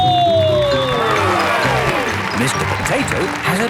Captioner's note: cheering